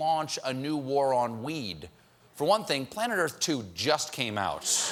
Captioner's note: laughter